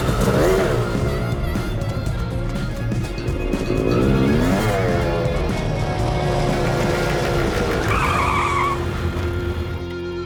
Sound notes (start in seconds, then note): 4.2 revving; 8.2 brakes squeal